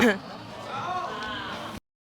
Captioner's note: audience exclaiming